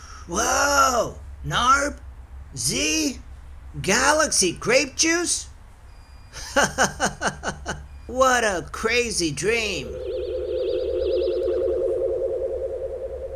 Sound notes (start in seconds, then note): 6.4 laughing; 9.9 ship whirring